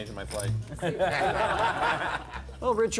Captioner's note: laughter